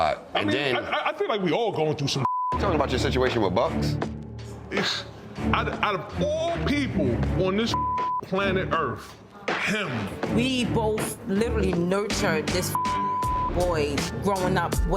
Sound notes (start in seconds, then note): 2.2 beep; 7.7 beep; 12.6 beep